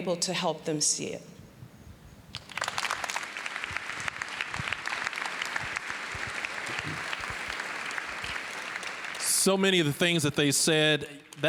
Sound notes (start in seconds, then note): 2.3 applause